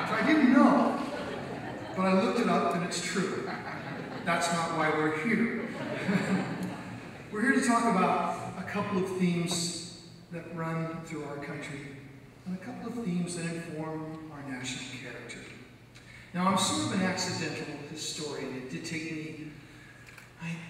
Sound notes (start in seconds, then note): 0.0 audience laughs; 5.6 laughs